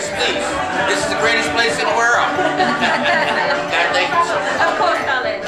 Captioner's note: chuckles